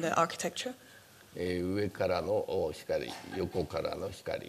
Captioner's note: speaking japanese